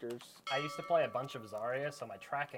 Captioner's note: bell ringing